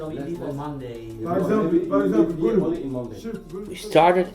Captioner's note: French